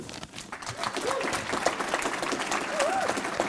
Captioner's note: applause